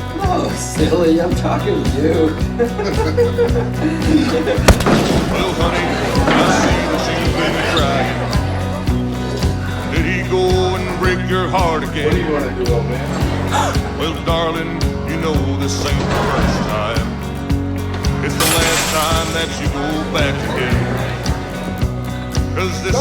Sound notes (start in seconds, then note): 3.2 men laughing; 4.6 blow thudding